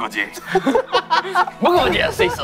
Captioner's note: the original writer can't stop laughing